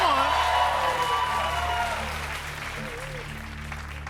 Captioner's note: cheers and applause